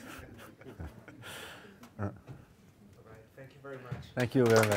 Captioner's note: laughing